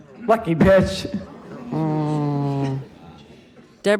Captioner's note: groaning